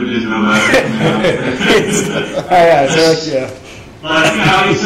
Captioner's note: laughing